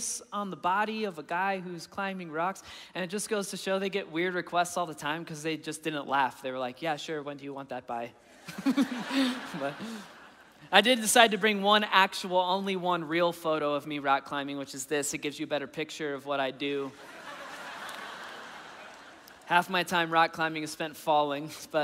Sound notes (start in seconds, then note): 8.5 laughing; 16.9 audience laughing